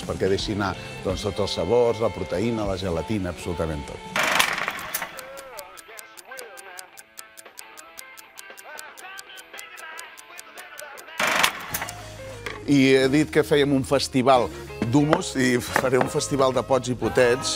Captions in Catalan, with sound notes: perquè deixi anar tots els sabors, la proteïna, la gelatina..., tot. (tic-tac) I he dit que fèiem un festival d'hummus i faré un festival de pots i potets,